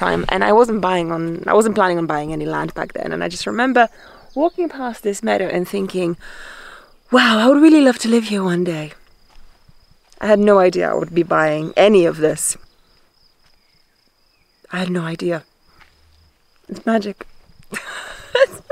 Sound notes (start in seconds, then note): 12.9 crickets chirping; 17.6 chuckles